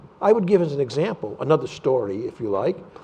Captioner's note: none